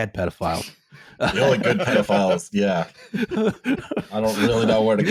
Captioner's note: laughing